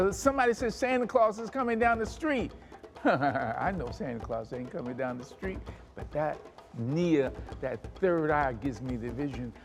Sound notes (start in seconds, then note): 2.8 laughs